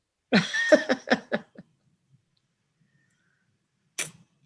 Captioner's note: laughs